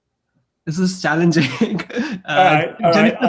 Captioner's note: laughs